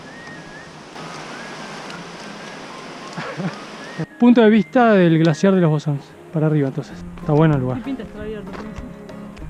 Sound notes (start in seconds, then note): 3.1 laughter